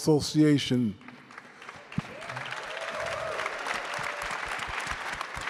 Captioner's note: crowd applauding